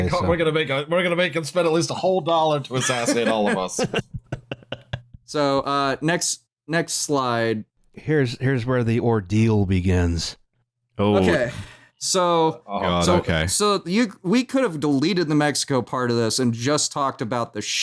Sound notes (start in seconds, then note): 2.7 laughter